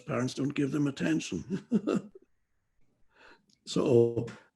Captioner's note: laughs